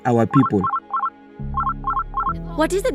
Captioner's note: ringtone